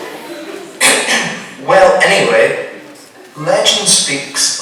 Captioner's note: clears throat